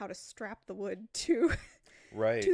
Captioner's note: laughs